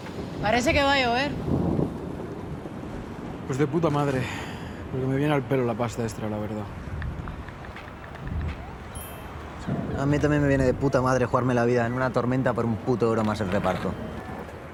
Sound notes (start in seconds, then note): 1.4 thunder